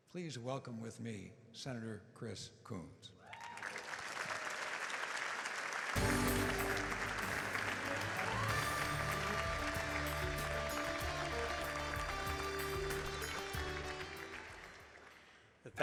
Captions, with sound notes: Please welcome with me Senator Chris Coons. (audience applauding) (upbeat music)